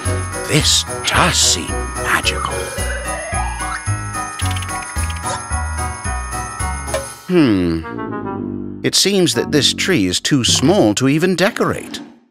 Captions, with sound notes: This does seem magical. [worriedly] Hmm... It seems that this tree is too small to even decorate.